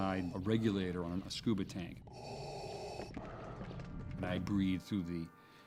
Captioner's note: mechanical breathing